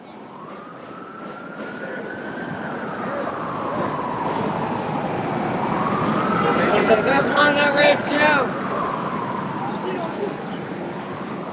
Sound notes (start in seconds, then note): 0.2 siren; 5.9 car traffic, mixed conversation